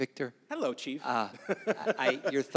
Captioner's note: chuckles